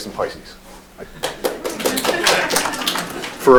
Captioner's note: applause